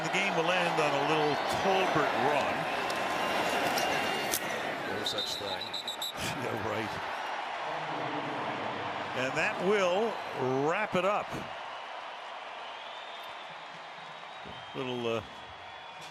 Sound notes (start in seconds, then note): 5.0 whistle blowing; 7.6 cheering; 8.4 pa announcement